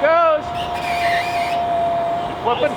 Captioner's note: winch engine whirs